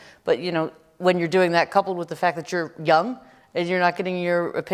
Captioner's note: none